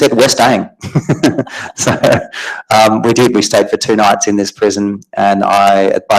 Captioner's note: laughs